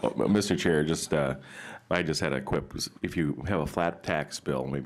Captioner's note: laughter